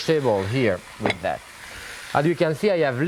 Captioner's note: plate clinks